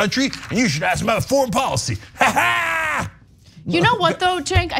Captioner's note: laugh